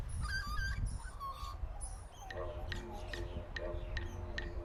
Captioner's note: bird squawks